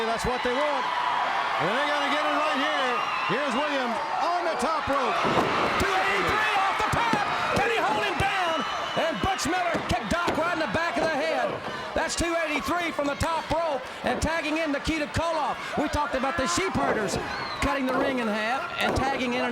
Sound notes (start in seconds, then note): 5.3 crowd cheering